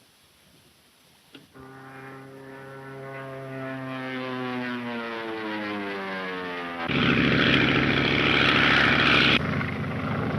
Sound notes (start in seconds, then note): 2.3 engines whining; 7.5 engines droning